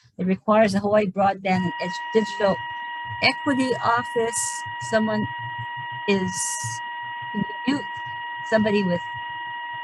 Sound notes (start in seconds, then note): 4.3 technical audio beeping